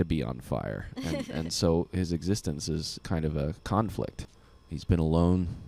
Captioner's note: laughing